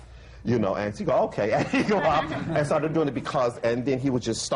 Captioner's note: laughter